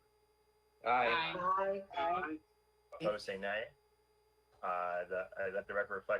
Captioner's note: in Unison